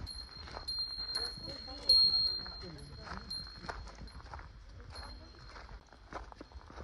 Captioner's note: sound of bell to ward off bears